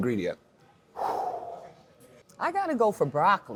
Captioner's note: deep breath